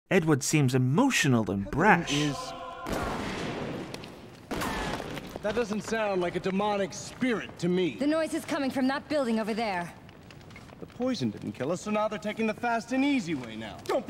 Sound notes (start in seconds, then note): 4.5 gunshots